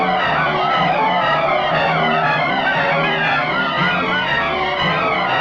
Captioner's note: dramatic music; men shouting